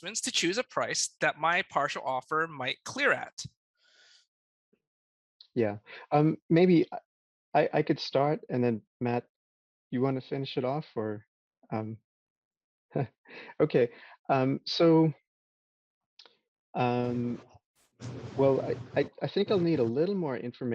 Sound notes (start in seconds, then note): 13.0 chuckles